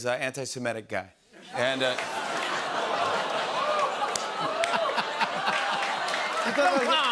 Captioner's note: audience groans, laughs